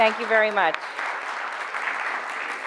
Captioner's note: audience applauding